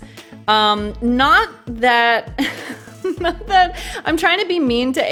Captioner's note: laughs